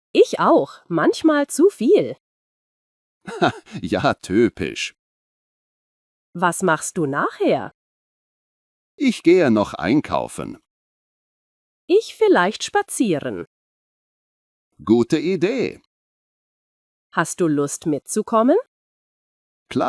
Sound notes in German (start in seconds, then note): 3.2 lacht